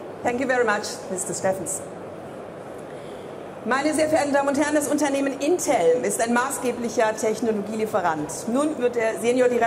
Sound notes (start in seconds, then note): 3.6 speaking in foreign language